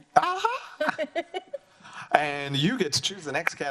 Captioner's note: laughs